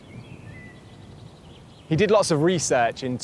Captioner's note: none